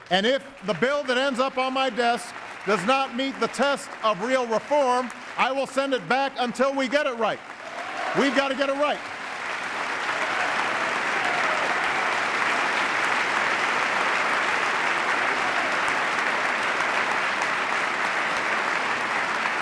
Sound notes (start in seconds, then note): 0.0 applause; 14.4 applause